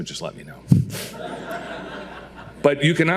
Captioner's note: audience laughing